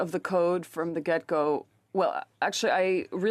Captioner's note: speaking French